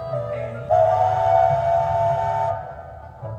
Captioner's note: UP 4466's Star Brass 5-Chime Whistle